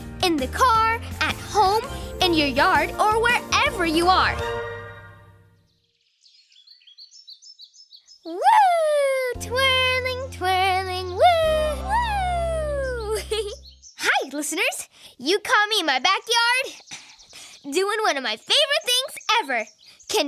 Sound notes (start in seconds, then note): 5.8 birds chirping; 12.4 giggles